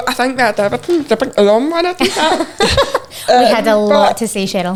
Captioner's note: chuckling